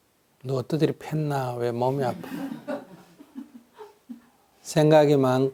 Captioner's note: audience laughter